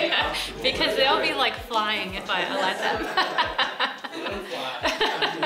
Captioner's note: laughs